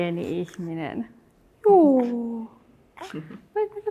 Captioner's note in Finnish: äidin naurua ja vauvan ääni